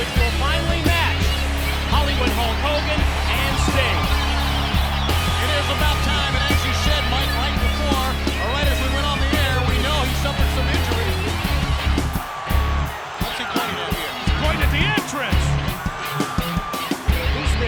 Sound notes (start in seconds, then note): 11.5 audience cheers; 11.5 upbeat music continues